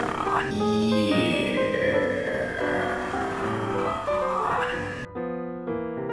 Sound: low voice

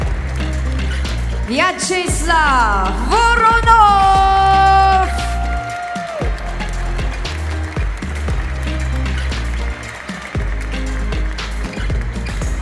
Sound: applause; applause

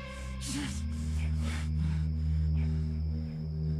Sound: unzipping, panting

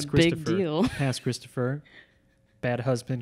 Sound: laughs

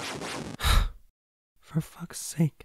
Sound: sighs shortly

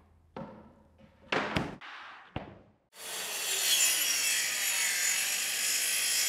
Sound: saw brattling; plywood thudding

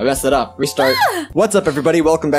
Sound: happy noise

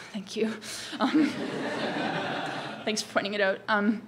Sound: audience laughs

